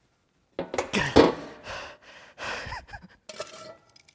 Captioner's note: panting and laughing; metals clinking